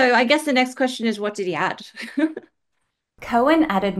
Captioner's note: laughs